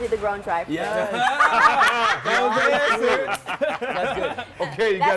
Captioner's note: laughter